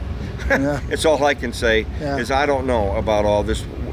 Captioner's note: laughs